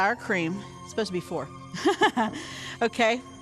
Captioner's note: chuckles softly